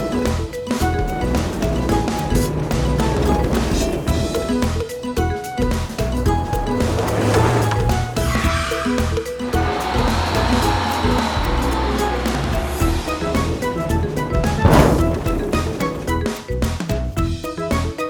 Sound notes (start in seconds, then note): 8.1 tyres Screeching; 14.5 thud